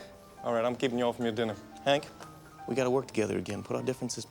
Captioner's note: none